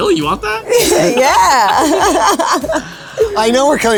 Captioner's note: laughs